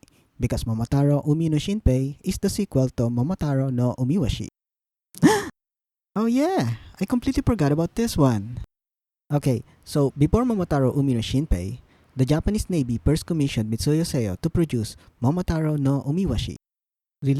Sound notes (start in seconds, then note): 5.2 gasp